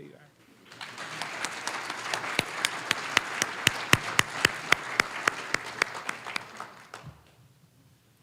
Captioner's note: applause